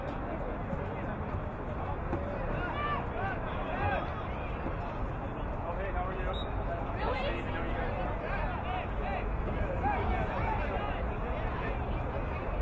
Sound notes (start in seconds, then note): 6.3 whistle blowing